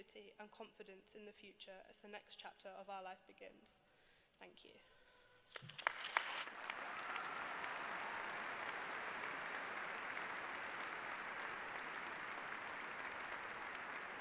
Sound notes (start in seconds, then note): 8.4 applause